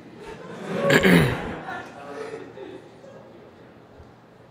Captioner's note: audience laughing